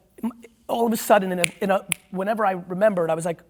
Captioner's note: snaps